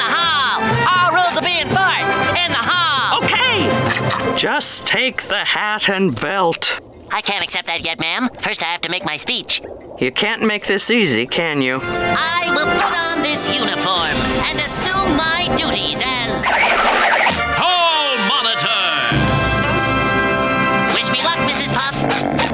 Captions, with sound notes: All rules will be enforced... in the hall! Okay! Just take the hat and belt. I can't accept that yet, ma'am. First, I have to make my speech. You can't make this easy, can you? I will put on this uniform and assume my duties as... [deep voice] hall monitor! Wish me luck, Mrs. Puff!